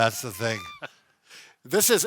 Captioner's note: chuckles